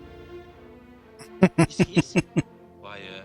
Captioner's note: laughing